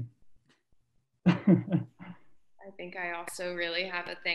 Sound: laughs

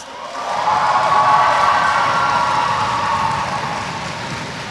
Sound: audience cheers

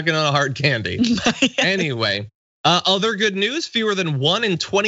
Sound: laugh

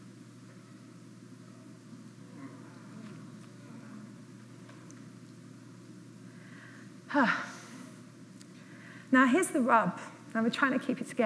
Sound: audience audibly sighs

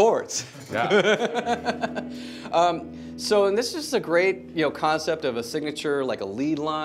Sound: laughs

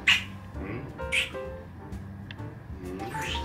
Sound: lips smacking

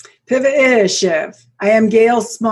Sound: speaks foreign language

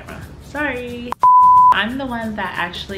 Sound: beep

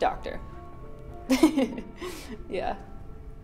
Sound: laughs

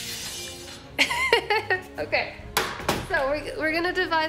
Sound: dramatic music; laughs

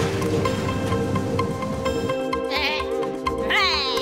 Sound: none

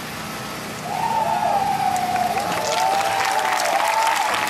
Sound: audience cheering

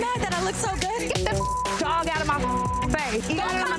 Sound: beep

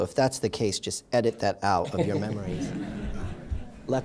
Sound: laughter

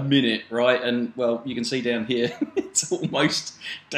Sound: laughs

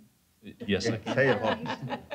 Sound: laughter

